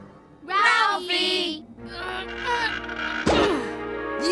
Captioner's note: grunting